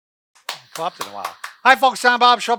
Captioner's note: clapping